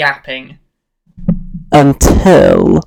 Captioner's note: loud maintenance worker hammering